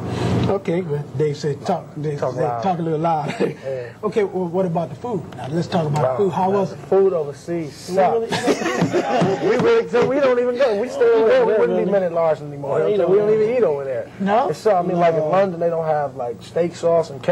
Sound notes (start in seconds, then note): 8.2 laughter; 12.4 laugh